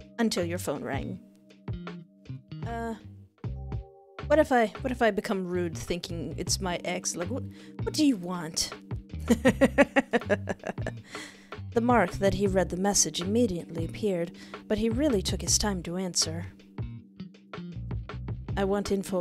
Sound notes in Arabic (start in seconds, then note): 9.3 ضحك